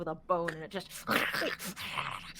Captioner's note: growls